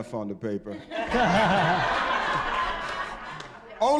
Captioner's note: audience laughing